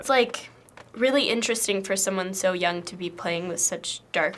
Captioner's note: none